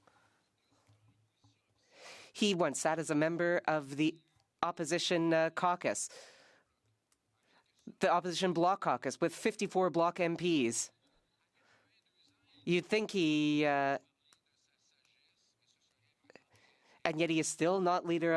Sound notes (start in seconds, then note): none